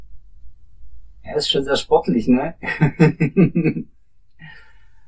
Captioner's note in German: lacht